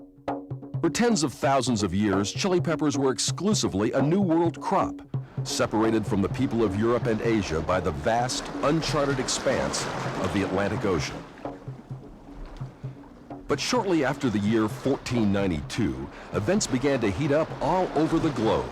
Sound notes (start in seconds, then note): 10.5 ocean waves